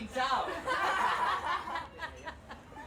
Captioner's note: everyone laughing